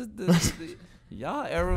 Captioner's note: Quentin laughing